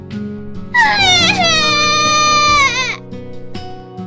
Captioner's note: sobbing